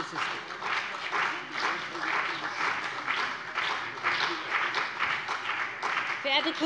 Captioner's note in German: Beifall BÜNDNIS 90/DIE GRÜNEN und vereinzelt CDU